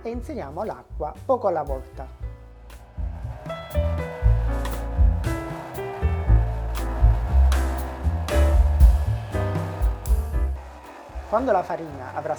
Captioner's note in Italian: Applauso